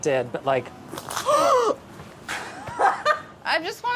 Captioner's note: crunching; gasping; laughing